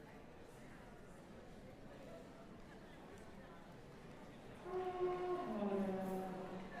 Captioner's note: chatter